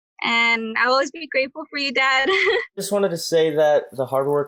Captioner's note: laughs